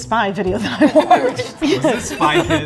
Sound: laughing

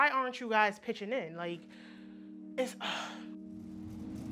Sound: sighs

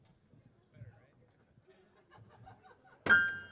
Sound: musicians chattering and chuckling

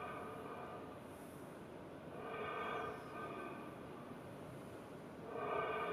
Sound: rhythmic breathing continues

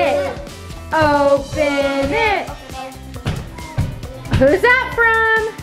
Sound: hands thumping

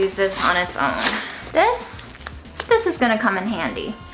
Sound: paper tearing

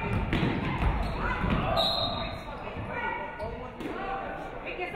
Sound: referee whistles

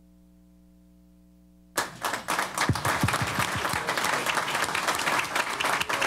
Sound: applause

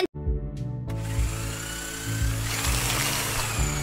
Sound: saw sounds

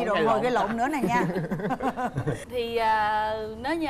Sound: laughing

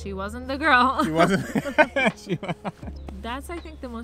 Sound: laughs

